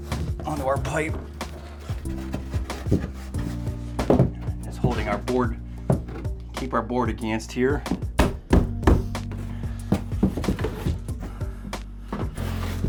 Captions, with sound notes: On to our pipe. (gentle music) And it's holding our board, keep our board against here. (banging) (gentle music)